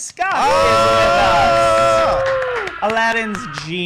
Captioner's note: cheers